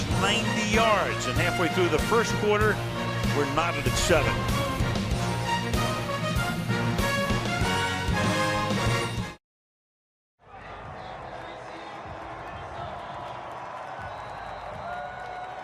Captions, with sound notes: Green Bay goes 90 yards and halfway through the first quarter, we're knotted at 7-7. [upbeat music] [pa announcement] [whistle blows]